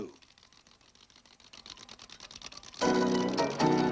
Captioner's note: movie projector whirring; whimsical music playing